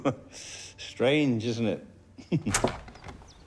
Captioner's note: laughs; chuckles